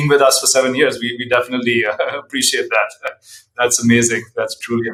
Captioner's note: chuckles